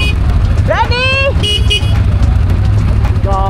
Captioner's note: horn